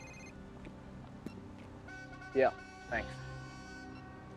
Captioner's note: phone rings; horn blowing